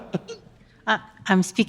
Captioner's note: laughs